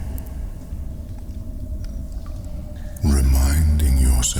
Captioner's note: cave noises